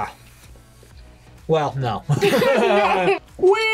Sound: both laugh

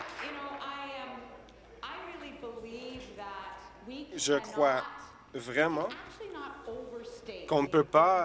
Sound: applause

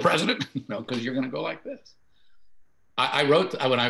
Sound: laughing

